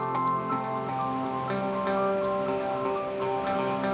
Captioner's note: upbeat music; water rushes